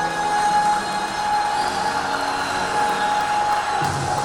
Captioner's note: applauding